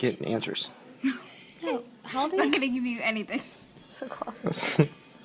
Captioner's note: laughs